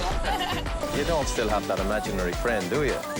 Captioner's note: laughs